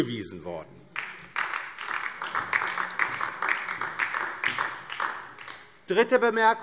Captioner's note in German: Beifall DIE LINKE und vereinzelt SPD